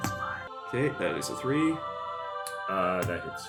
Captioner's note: whispers